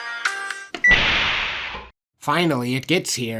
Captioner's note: elevator door opens